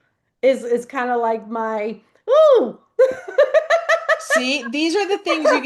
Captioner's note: laughs